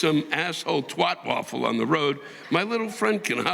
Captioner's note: audience laughing